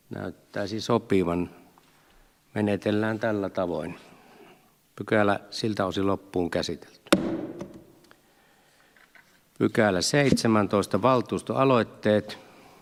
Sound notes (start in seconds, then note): 7.1 Nuijan kopautus